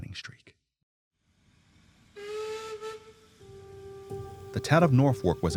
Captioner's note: train whistle blowing